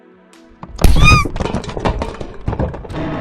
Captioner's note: bang!